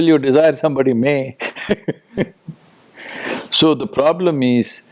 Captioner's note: laughs